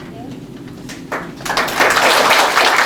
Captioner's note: applause